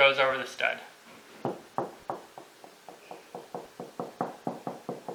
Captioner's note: knocking